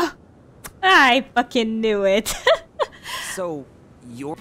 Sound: laughing

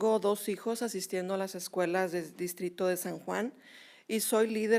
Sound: speaking spanish

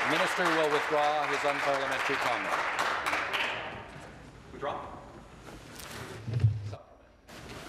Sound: applause

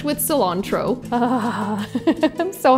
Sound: chuckles

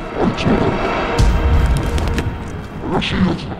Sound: Oni speaking Japanese

